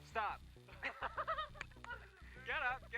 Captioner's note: both laughs